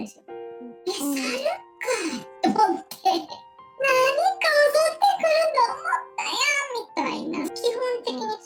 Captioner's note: laughs